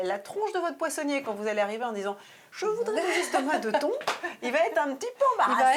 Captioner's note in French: rires